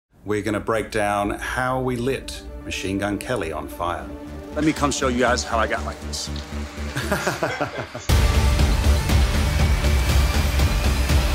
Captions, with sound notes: - We're gonna break down how we lit Machine Gun Kelly on fire. - Let me come show you guys how I got like this. (laughing) (dramatic music)